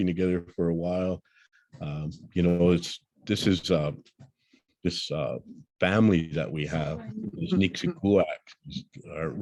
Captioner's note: blackfeet spoken